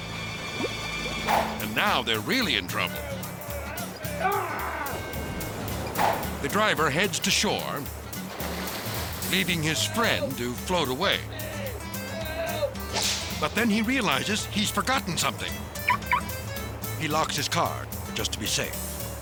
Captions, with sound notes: and now they're really in trouble. (dramatic music) (driver shouting) The driver heads to shore leaving his friend to float away, but then he realizes he's forgotten something. (alarm chirps) He locks his car just to be safe.